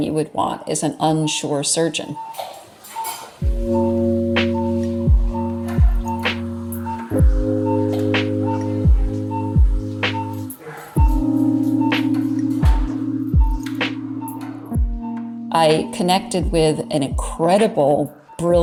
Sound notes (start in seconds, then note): 2.5 machine beeping; 2.5 soft upbeat music